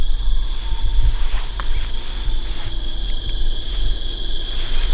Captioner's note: coyotes howling